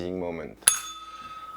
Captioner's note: bell rings